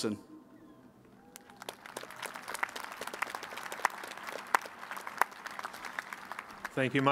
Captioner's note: applause